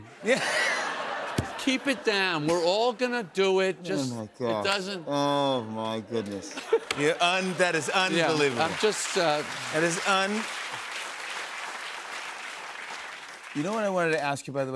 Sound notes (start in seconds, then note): 0.2 laughter; 11.4 applause